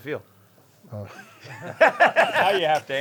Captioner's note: laughing